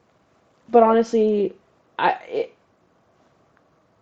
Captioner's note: stammers